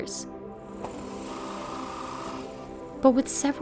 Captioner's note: drills whirring